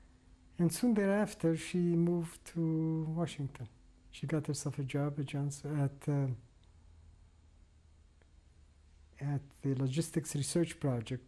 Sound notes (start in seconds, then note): 7.2 pauses for 3 seconds